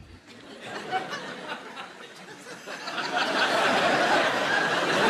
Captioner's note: audience laughing